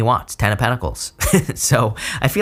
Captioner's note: chuckles